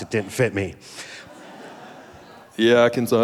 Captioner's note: audience laughing